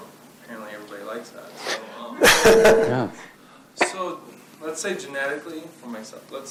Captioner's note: laughs